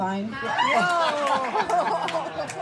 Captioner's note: laughter; applause